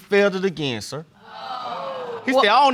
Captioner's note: audience exclaims